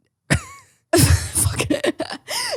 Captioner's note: both laugh